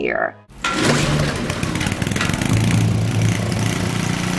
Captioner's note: motor revving